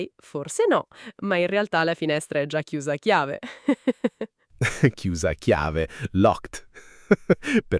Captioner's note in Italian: risate